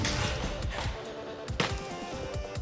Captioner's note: chopping sound